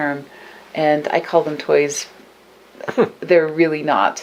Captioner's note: chuckles